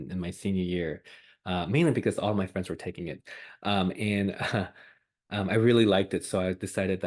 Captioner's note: laughs